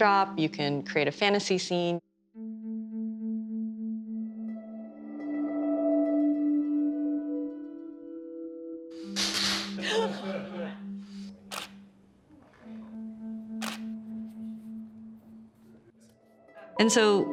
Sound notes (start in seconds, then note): 9.7 laughter; 11.5 camera shutter snaps